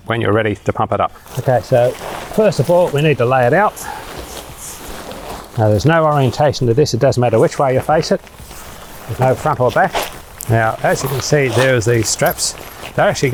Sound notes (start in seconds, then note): 4.2 material rustling